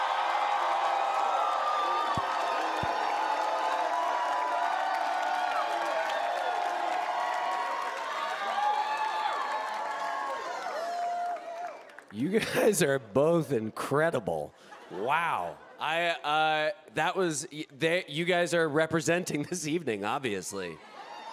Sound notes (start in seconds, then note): 3.9 cheering; 7.1 applause